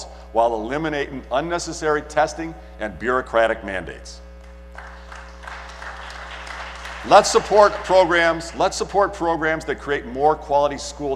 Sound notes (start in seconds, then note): 6.5 applause